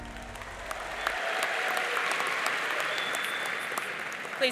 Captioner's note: audience applauding